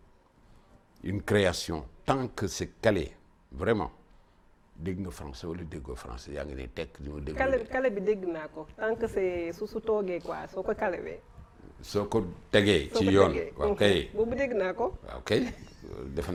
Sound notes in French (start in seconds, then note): 6.2 ironique; 15.3 rire